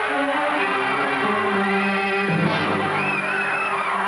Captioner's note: people screaming